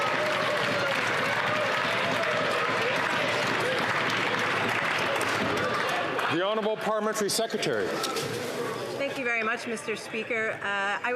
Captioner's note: some Applause